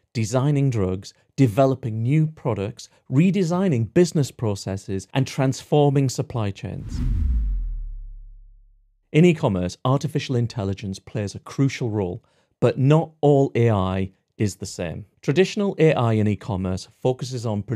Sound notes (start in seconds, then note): 6.8 air whooshes